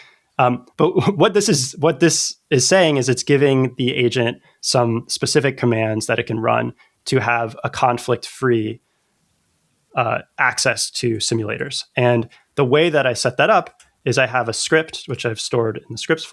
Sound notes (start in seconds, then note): 10.0 uh